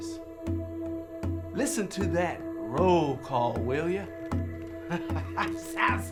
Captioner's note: drumming music; laughing